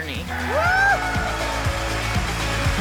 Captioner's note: audience applauding; audience cheering; dramatic music